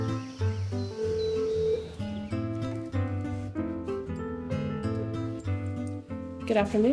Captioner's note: upbeat music; phone rings